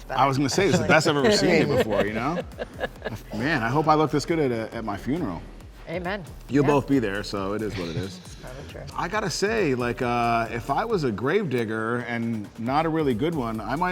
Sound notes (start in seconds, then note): 2.4 all laughing